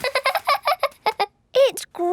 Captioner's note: laughing